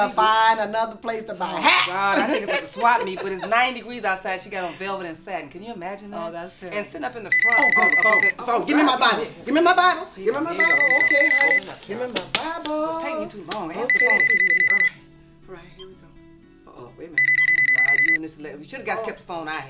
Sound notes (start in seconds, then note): 10.5 phone rings